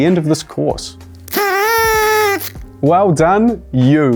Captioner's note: toots whistle